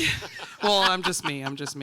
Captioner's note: group laughing